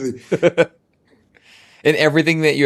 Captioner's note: laughing